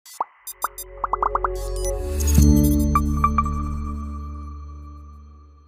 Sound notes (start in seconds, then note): 0.5 symbols popping; 0.6 bright music